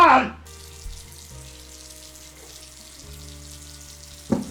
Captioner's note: water running